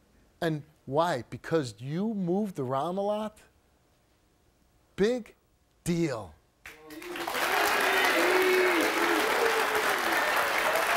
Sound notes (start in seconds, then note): 6.7 audience applauds